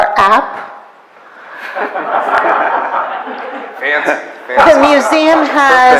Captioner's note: audience laughs